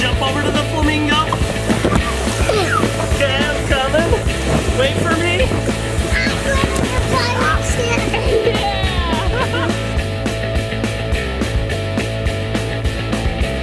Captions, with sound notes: Okay, jump over to the flamingo. Okay, I'm coming. Wait for me! - I'm going on the pirate ship. - Yeah! (laughs) (rock music)